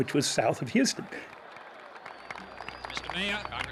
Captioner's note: applause